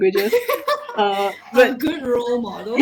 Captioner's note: laughing